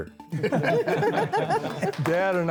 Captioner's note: laughing